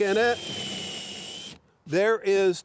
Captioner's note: drill whirring